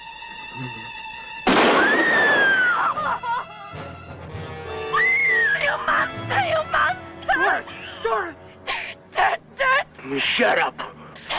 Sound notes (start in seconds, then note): 1.6 shotgun - scream; 4.9 scream